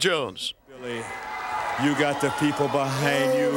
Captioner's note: crowd cheering